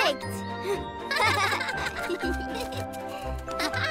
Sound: both chuckle

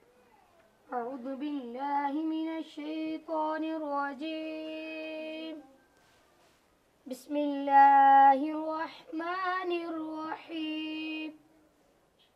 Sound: reciting the holy Quran

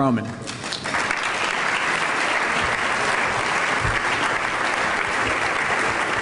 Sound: applause

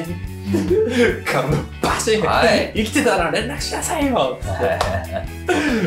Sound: smack

